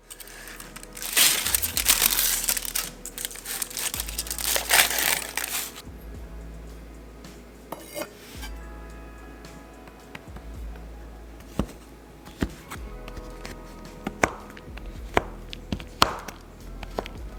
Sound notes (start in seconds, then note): 0.0 sound of foil covering chocolate being ripped off; 12.1 sound of chopping chocolate